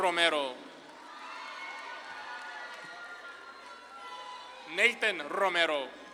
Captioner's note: audience claps and cheers